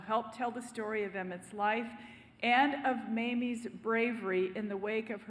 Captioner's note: none